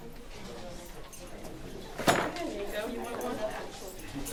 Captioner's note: audience rustling